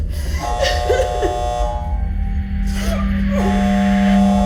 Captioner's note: person crying